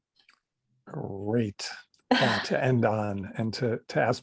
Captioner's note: chuckles